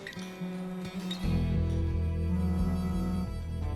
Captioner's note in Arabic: اهتزاز الهاتف